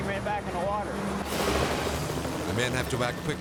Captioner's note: propellers humming